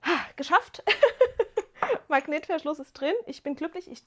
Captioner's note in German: gelächter